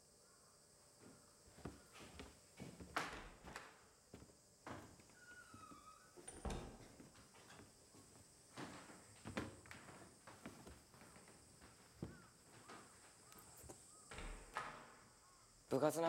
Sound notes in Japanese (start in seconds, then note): 2.8 ドアの開閉音; 14.0 ドアが開く音